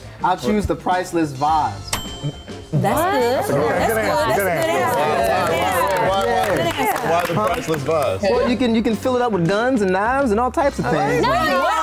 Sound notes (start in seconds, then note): 4.9 all clapping and talking over each other